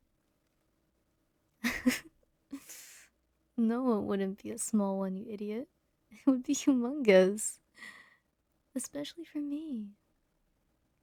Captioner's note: chuckles